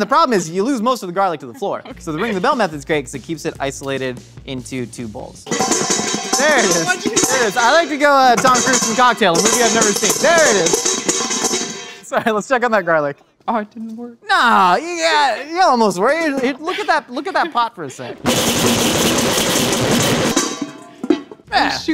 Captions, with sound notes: But then the problem is you lose most of the garlic to the floor. So, the ringing the bell method's great because it keeps it isolated into two bowls. (garlic clattering in bowls) There it is. - Is this what you do? - I like to go Tom Cruise from Cocktail, a movie I've never seen. (clattering continues) There it is. (clattering ends) It's all right, let's check on that garlic. - Oh, it didn't work. - Nah, it almost worked. Look at that pot for a sec. (garlic bangs violently)